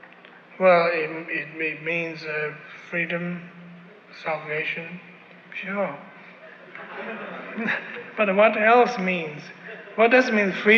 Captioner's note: laughter